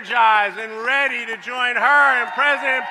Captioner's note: applause